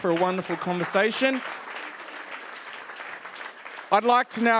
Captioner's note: audience applauds